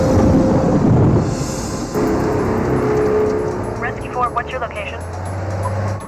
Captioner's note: thunderclap